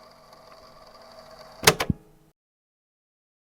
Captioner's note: click